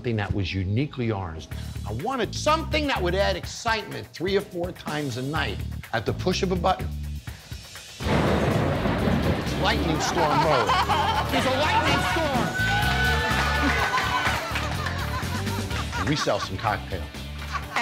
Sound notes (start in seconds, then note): 9.9 laughs; 14.3 crowd cheers